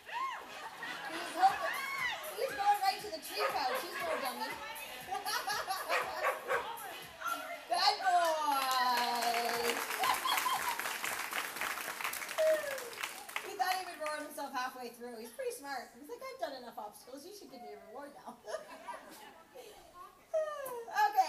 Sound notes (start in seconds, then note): 0.0 crowd laughing; 5.2 laughing; 9.9 clapping; 18.3 laughs